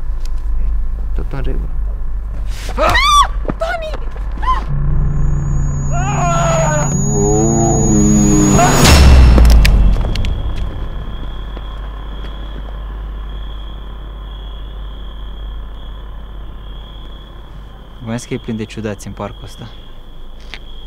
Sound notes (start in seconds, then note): 2.8 punch and girl screaming; 6.6 screaming in slow motion; 9.1 sound of hammer blow and knife falling on the ground